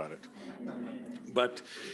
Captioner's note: audience laughing